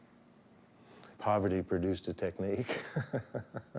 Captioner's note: chuckles